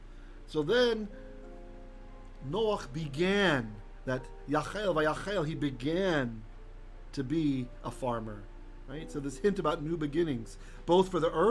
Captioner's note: Hebrew